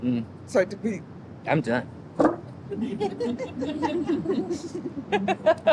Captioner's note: everyone laughs